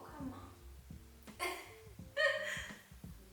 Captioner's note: haha